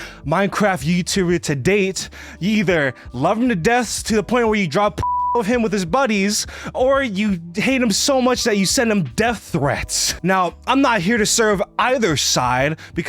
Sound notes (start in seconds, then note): 5.0 beeps